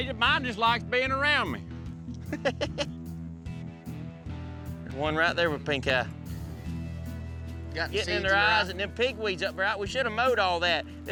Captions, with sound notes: MINE JUST LIKES BEING AROUND ME. [CHUCKLING] THERE'S ONE RIGHT THERE WITH PINK EYE. GOT SEEDS IN THEIR EYES AND THE PIGWEED'S UP, RIGHT? WE SHOULD'VE MOWED ALL THAT.